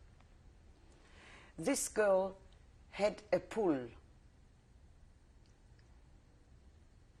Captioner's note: pauses for 3 seconds